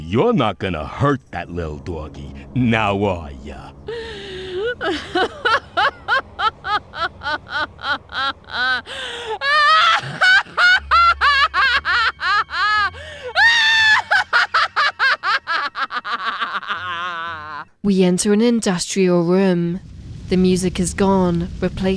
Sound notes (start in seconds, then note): 15.2 very evil laugh